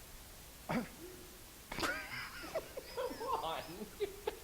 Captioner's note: laughing